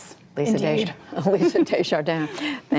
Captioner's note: laughter